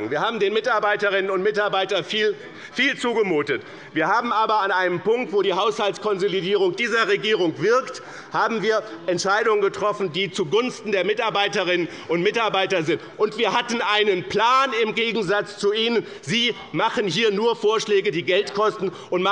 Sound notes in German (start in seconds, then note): none